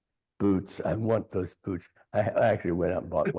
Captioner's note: chuckling